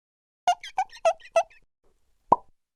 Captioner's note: squeaking; pop